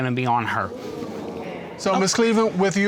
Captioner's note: audience murmuring